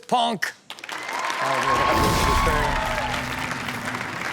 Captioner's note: audience cheering; synth music